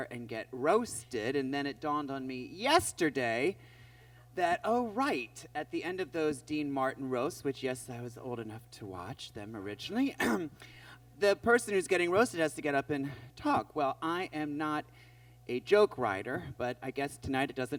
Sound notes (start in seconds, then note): 10.1 clears throat